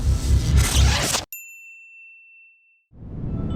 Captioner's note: bell ringing